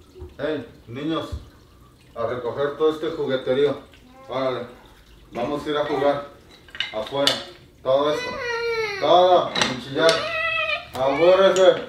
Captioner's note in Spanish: Chillido